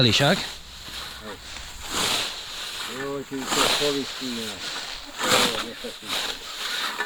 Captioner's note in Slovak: smrkanie